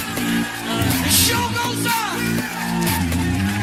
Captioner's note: Aplauze